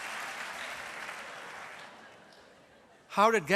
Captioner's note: laughter & applause